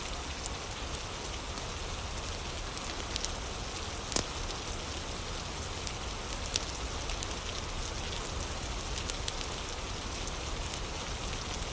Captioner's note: fire crackling